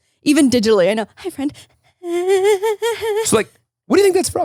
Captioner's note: whimpers